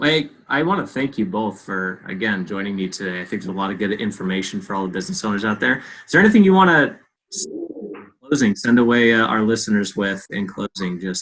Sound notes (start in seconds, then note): 7.8 audio glitch